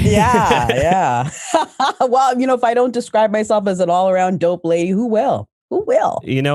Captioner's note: laughs